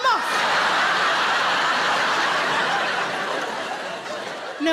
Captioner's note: audience laughs